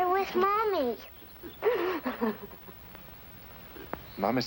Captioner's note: crying